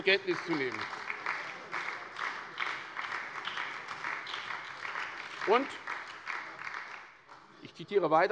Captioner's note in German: Beifall bei der SPD und der FDP